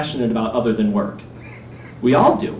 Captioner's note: laughter